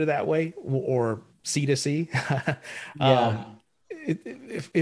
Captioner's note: laughs